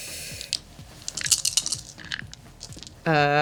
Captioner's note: clatter